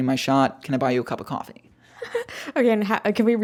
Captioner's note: laughs